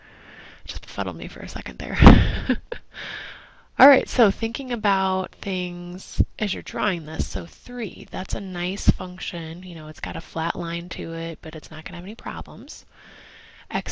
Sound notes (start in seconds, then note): 2.0 laugh